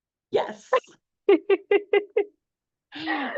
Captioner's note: laughs